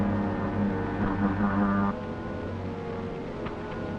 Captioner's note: buzzing